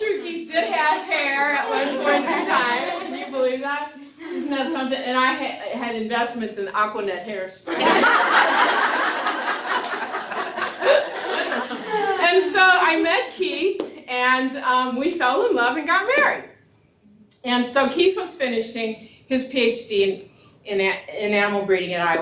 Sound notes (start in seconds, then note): 10.5 laughter